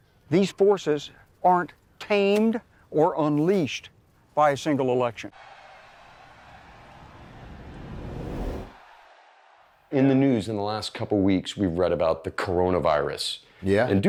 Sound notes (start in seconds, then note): 5.1 audience cheering